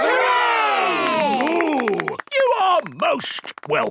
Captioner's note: applause